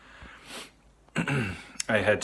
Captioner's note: clears throat